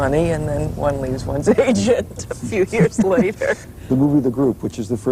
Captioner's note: laughing